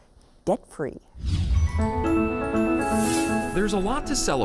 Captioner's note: chiming bells